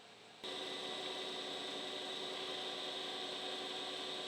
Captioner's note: machine whirring